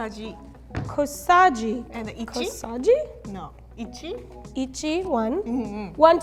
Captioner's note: speaks in foreign language